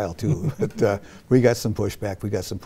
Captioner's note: laughs